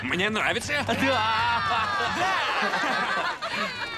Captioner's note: cheering